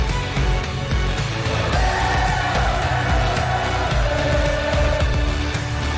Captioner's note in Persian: صدای تشویق